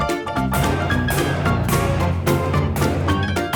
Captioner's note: very loud hammering